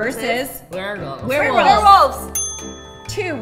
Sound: ding

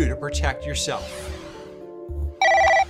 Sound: cell phone ringing

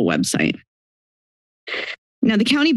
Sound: silence

